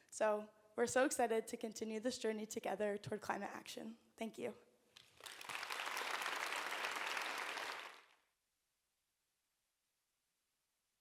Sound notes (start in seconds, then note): 5.0 audience applauds